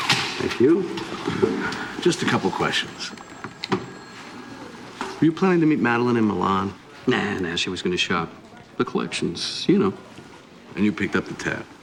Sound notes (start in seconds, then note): 2.0 phone ringing